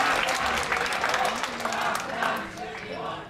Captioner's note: cheering